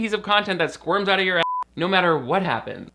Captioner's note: beep